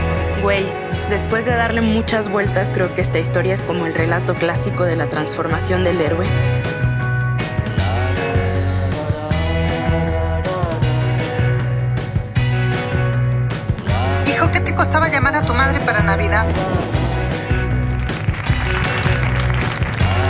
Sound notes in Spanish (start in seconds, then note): 7.5 continúa música pop; 17.7 aplausos